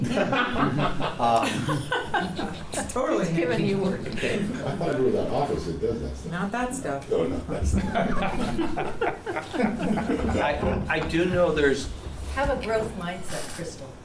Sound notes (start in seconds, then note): 0.1 laughs; 7.6 laughs